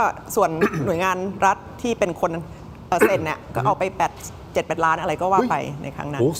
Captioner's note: clears throat